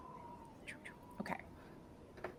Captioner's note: sputters faintly